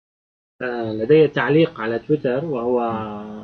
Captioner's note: speaking Arabic